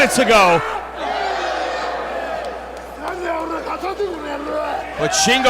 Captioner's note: applause